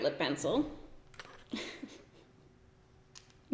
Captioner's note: giggles